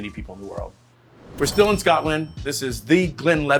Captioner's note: cash register dings